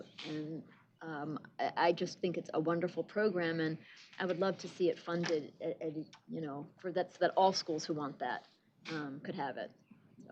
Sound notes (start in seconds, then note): none